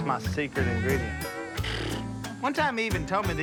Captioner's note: scoffs